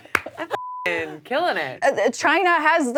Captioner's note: beep